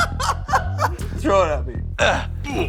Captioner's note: laughs